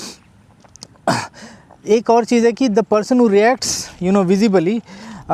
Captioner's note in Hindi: नाक से की जाने वाली आवाज़